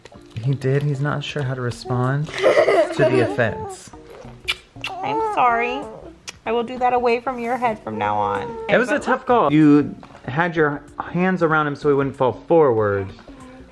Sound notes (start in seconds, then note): 3.9 kisses